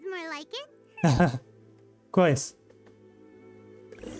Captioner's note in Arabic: ضحكات خافتة